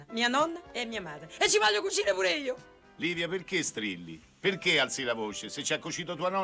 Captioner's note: shouting